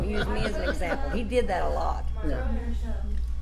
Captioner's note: laughs